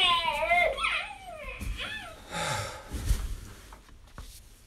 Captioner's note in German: Vergnügtes Lachen, er stöhnt